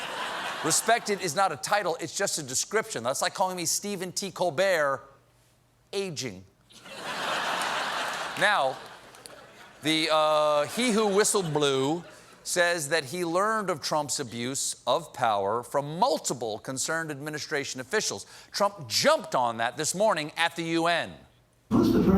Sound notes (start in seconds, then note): 6.7 laughter